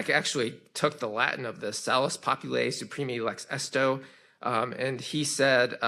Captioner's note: speaks in foreign language